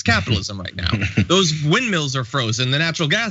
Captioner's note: laugh